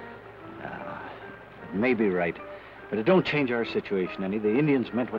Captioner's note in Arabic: تنهد